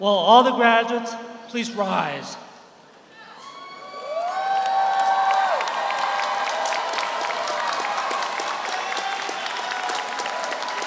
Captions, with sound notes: Will all the graduates please rise. (audience cheers) (audience applauds)